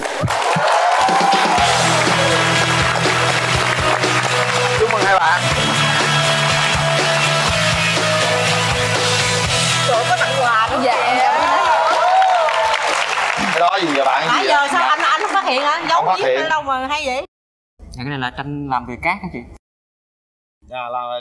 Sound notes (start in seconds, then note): 4.6 clap hands; 8.4 applause